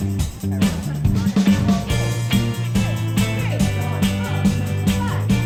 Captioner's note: chatter